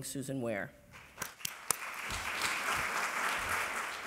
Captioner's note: applause